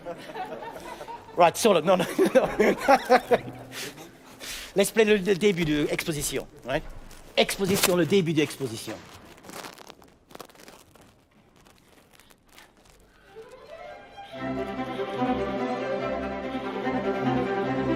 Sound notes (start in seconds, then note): 0.3 all laugh out loud; 5.9 speaking in French; 13.5 cheerful orchestral music